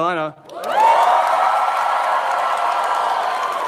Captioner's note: audience cheers